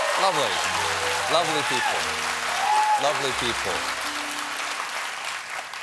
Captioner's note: applause